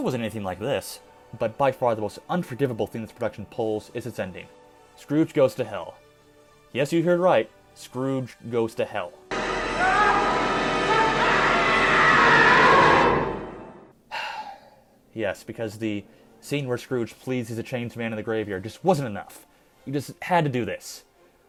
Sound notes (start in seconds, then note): 14.0 sigh